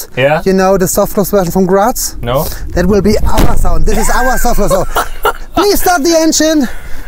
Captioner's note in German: Tür knallt zu